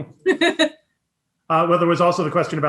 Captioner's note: laughing